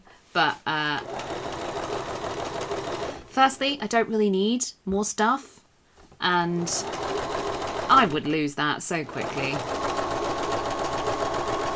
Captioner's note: sewing continues